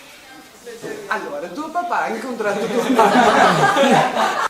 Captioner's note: laughs